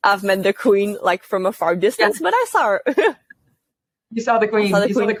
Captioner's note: laugh